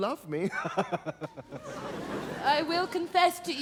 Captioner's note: chuckles